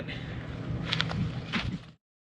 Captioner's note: footsteps on sand